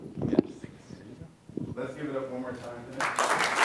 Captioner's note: applause